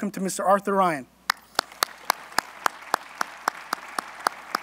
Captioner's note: applause